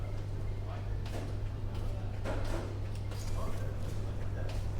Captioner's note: footsteps thudding